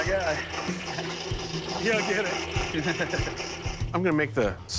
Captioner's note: laughing